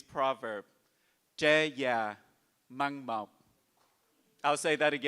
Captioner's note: speaks in Vietnamese